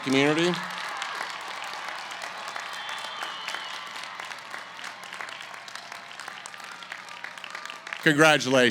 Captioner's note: cheering & Applause